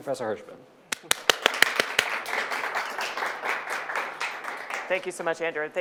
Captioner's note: audience applauding